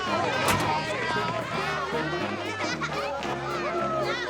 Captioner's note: people chattering